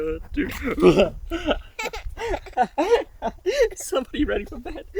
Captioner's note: laughing